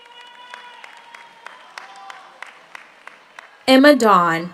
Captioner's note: audience applauds; audience cheers